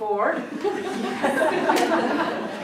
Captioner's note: audience laughs